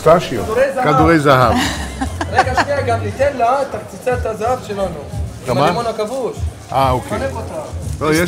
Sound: Speaking Hebrew

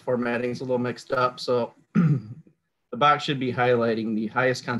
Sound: clears throat

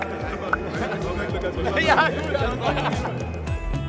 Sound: laughing

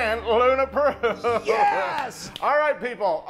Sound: laugh

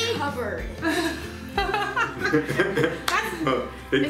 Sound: laughing

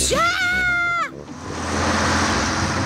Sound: shrieks

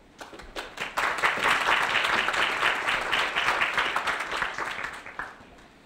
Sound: applause

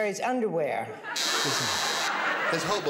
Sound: buzzer

